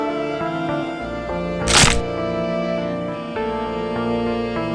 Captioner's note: solemn music continues; flesh squelches